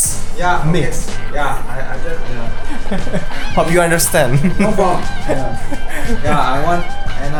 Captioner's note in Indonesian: tertawa